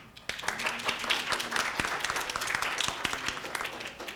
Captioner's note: audience clapping